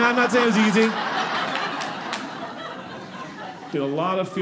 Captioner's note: audience laughing